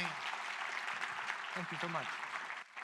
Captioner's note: audience applauding